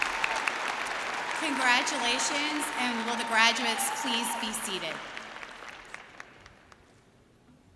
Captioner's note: cheering and applause